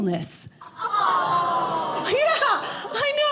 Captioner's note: audience laughing